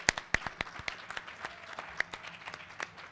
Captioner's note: applause